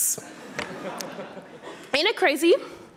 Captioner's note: audience laughing